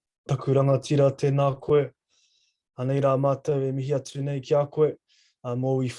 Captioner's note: speaking in foreign language